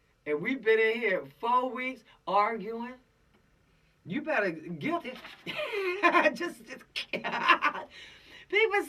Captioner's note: laughing